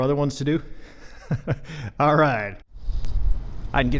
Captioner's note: laughs